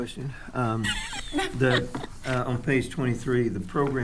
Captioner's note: laughing